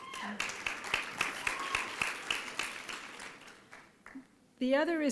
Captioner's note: applause and cheering